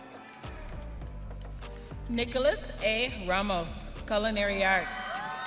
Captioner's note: audience cheering